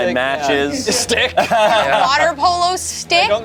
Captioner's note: group laughs